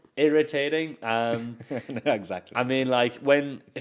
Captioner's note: laughs